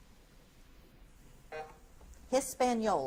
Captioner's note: buzzer buzzes